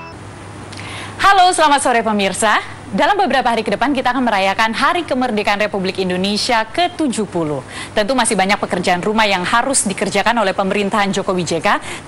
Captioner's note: non-english speech